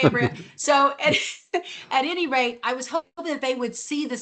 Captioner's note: laughs